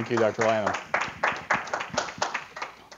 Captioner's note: applause